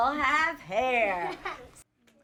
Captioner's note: laughter